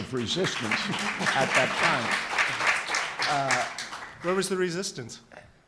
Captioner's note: audience claps